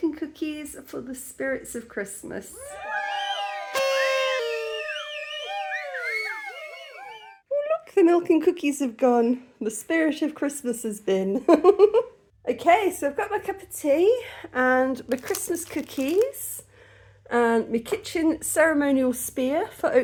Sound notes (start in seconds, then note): 2.6 cheering, party blower; 12.0 laughing